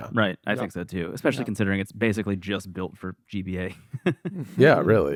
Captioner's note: laughs